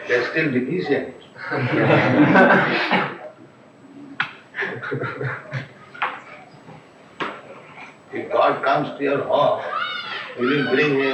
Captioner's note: laughter